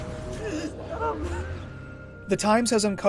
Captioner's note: sobbing